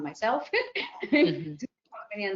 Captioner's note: laughs